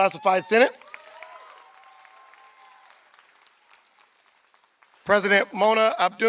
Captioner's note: applause